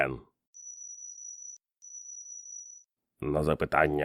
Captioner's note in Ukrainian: звуки рентгену